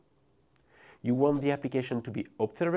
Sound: text whooshing

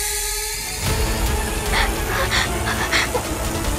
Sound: gasps

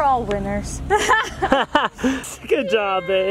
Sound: laughs

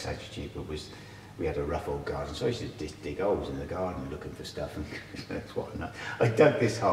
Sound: laughs

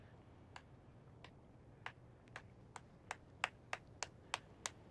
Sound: slow clapping

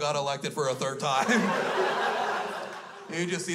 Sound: crowd laughs

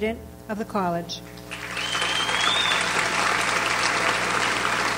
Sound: audience applauds

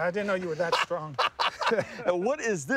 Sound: laughing

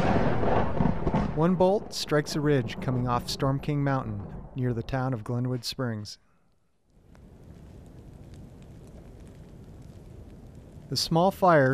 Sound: thunder rumbling; crack of thunder

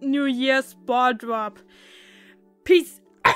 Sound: cough

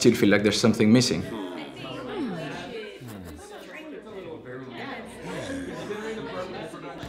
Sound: more Office Background Noises

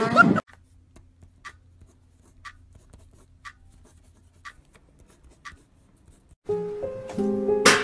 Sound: laughing; clock ticking; sad piano music

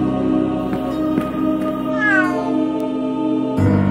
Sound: cat meows

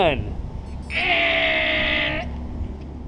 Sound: make air horn noise

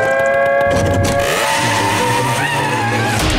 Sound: screeching

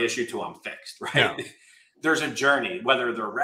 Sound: laughs

